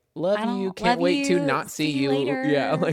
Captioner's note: laughs